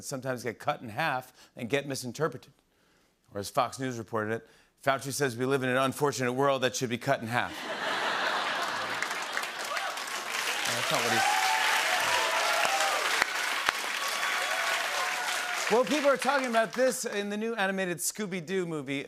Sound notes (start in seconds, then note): 7.7 laughter and applause; 12.1 cheers and applause